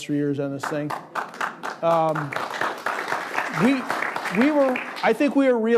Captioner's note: crowd applauding